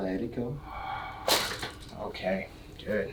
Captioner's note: patient exhaling; spine cracking